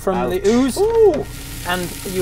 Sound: sizzle

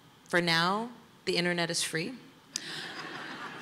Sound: laughter

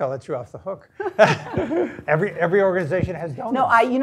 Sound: laugh

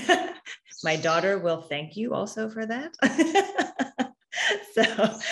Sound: laughs

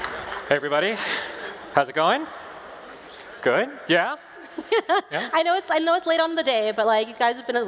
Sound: applause

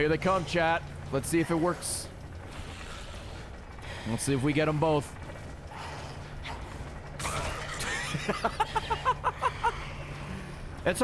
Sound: laughs

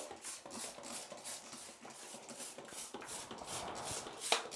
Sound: bottle spritzing

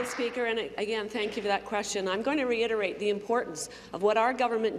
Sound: applause

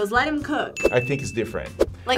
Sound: bell dings

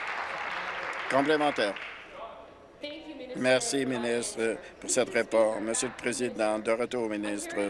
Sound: applause

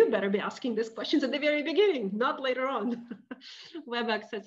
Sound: laughing

